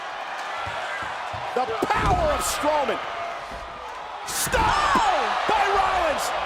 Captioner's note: applause